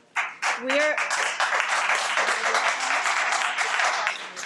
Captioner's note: audience applauds